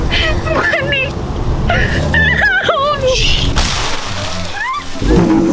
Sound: Anna Crying

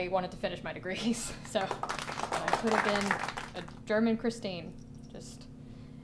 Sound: applause

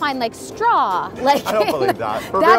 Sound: laughing

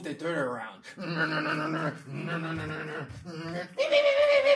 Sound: imitating engine chugging

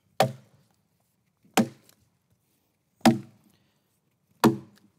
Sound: rhythmic chopping

